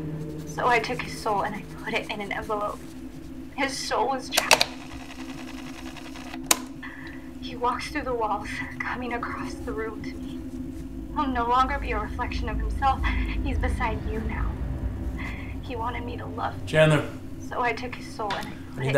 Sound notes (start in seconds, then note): 3.5 cassette rewinding